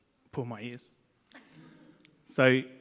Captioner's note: audience laughs